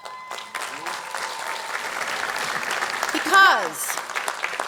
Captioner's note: audience clapping